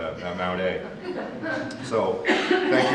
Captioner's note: audience laughs